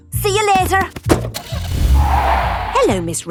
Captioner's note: tires screeching; car starting